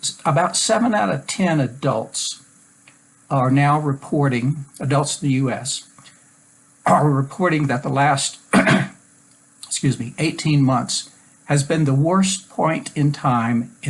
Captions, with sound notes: About seven out of 10 adults are now reporting, adults in the U.S. are reporting the the last (coughs)... Excuse me, 18 months has been the worst point in time